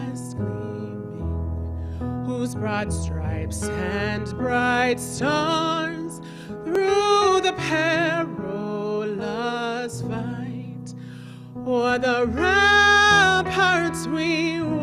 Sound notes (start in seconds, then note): none